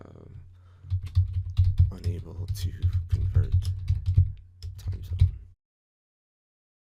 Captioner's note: typing